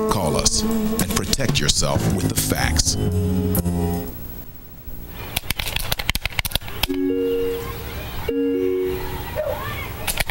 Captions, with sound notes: CALL US AND PROTECT YOURSELF WITH THE FACTS. [COMPUTER KEYS CLICKING]